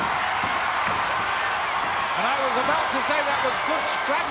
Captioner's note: applause